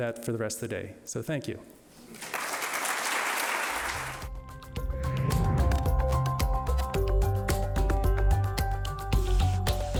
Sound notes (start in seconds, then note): 2.1 audience applauding; 4.2 warm electronic music